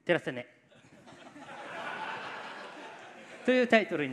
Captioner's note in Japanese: 客席からの笑い